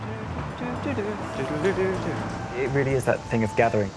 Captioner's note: hums